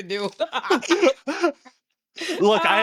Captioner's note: laughing